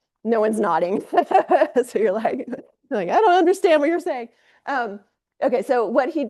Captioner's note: laughs